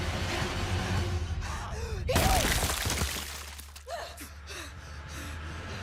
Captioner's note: dramatic music; person breathing heavily